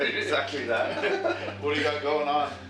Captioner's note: laughter